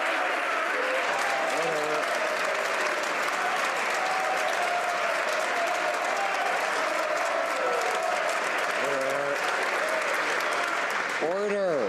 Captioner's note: some Applause